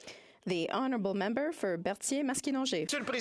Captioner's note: some Applause